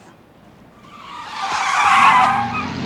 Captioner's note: car screeching